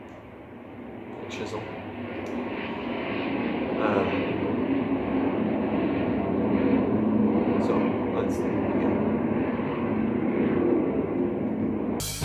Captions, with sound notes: chisel *jets being noisy in the sky* Um *jets being noisy in the sky* So, let's *jets continue noisiness*